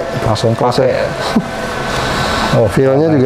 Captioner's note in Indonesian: suara mesin printer; tertawa kecil; suara mesin printer